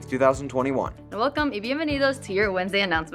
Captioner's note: speaking in Spanish